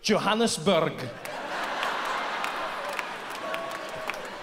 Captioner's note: audience laughs